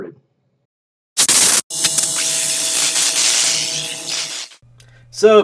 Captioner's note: static buzzing